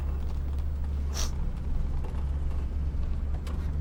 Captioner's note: sniffs